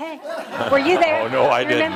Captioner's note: laughter